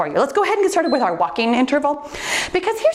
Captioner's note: timer beeps